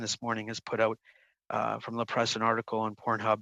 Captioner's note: speaking in French